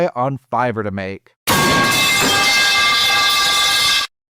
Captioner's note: metal pipe falling sound